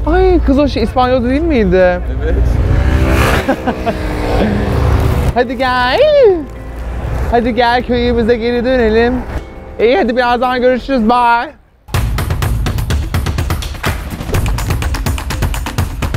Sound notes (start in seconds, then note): 3.3 laughs; 7.1 sings